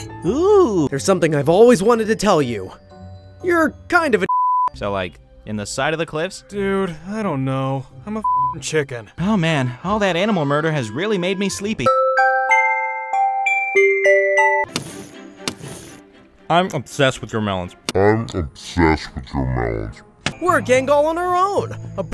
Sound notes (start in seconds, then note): 4.3 beep; 8.2 beep; 12.0 light music